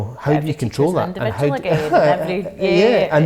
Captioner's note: laughing